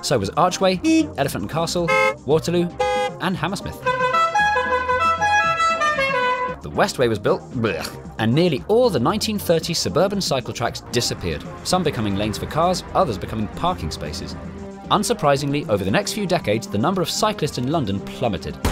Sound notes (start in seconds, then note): 3.8 car horns